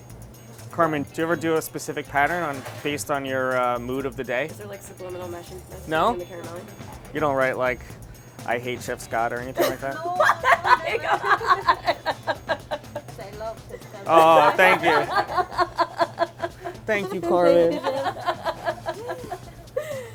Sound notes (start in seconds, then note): 11.3 laughs; 15.5 laughs